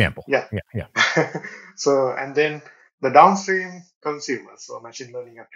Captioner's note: laughs